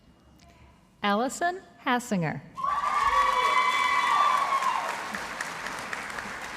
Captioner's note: audience applauding